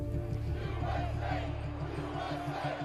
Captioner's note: crowd chanting